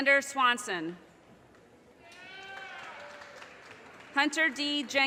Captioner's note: audience cheers and applause